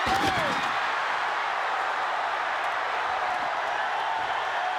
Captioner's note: crowd cheering